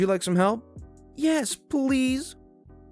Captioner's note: exasperated